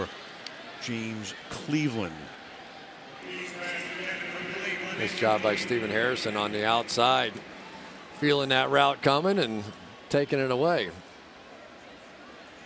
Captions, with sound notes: Intended for James Cleveland. [pa announcement] This job by Stephen Harrison on the outside feeling that route coming and taking it away.